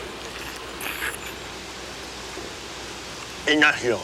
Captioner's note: Bruto slurps